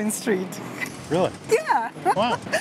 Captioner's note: laughs